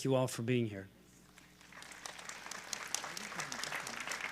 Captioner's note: applause